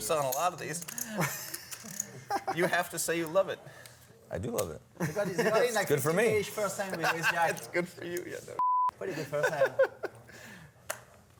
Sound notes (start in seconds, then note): 1.0 laughs; 9.0 laughs